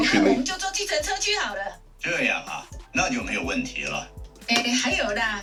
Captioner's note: speaking in foreign language